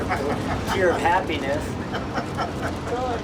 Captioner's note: men laughing